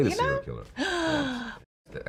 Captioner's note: gasping